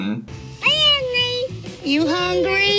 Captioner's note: toddler babbling